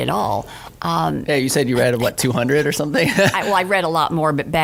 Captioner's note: laughs